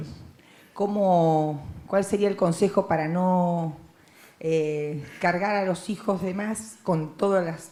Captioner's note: Spanish language